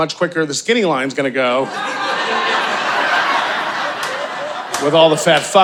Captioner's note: audience laughing